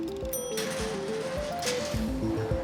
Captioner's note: bell chimes